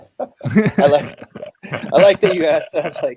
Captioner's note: all laughing